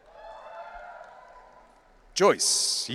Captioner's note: audience cheering